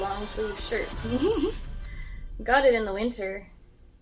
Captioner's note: laughs